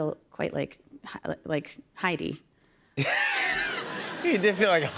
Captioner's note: laughter